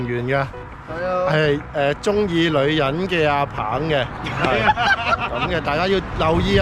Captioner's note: laughs